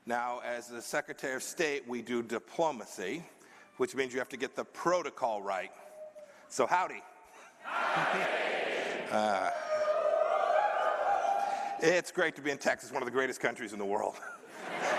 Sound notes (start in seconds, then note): 9.6 cheers